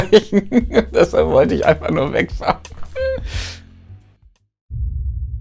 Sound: laughs; laughs

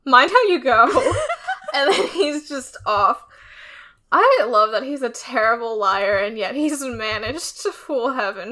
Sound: laughs

